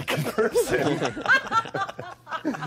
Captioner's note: all laughing